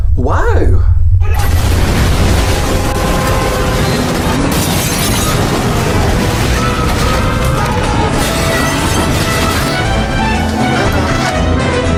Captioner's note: swat team noises